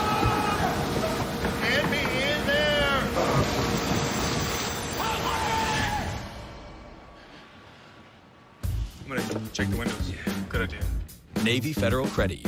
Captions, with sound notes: [MEN SCREAMING] [KNOCKING] YOU CAN'T BE IN THERE. HOT WAX! I'M GOING TO CHECK THE WINDOWS. YEA, GOOD IDEA.